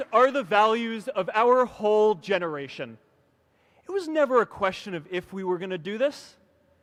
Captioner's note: applause